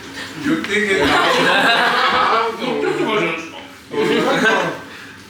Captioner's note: laughs